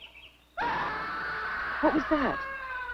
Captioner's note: person screaming